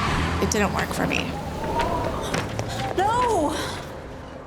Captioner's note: wind blowing